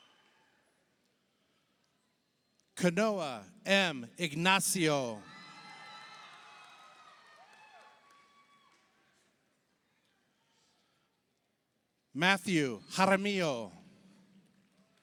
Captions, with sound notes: Kanoah M. Ignacio, (audience applauds) (audience cheers) Matthew Jaramillo,